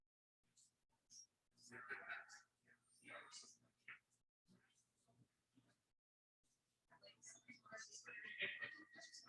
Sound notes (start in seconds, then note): 1.6 people chattering indistinctly